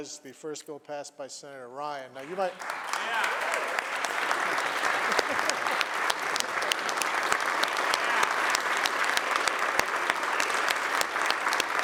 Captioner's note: applause